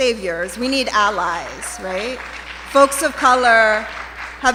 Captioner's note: applause